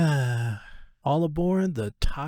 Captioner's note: sigh